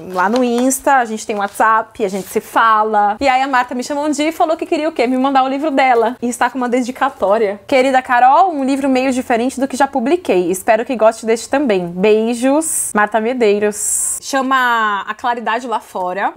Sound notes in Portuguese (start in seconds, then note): none